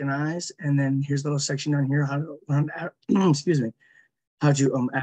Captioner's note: clears throat